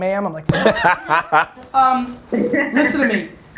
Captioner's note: Cha laughs